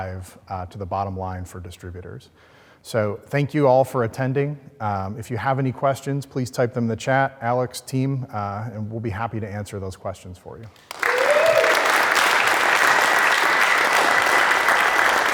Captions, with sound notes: to the bottom line for distributors. So thank you all for attending. If you have any questions, please type them in the chat, Alex team and we'll be happy to answer those questions for you. (audience clapping)